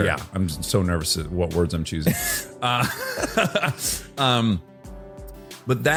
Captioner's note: laughs